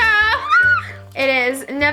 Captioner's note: squealing